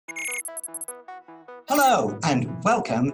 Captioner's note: rapid beeping